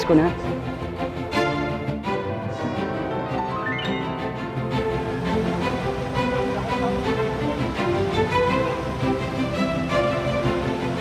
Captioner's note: sound of jeepney, traffic and Christmas music